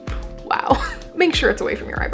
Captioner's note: laugh